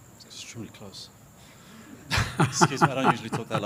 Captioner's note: laughs